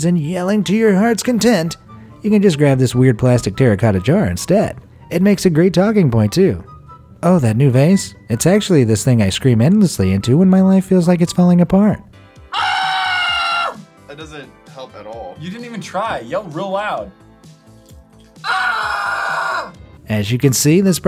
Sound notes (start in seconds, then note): 12.5 man screams; 18.4 man screams